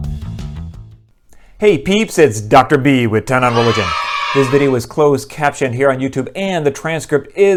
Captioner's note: kids cheering